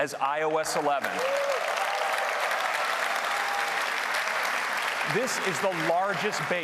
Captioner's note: applause